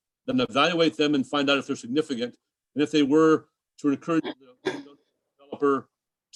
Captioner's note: distorted mic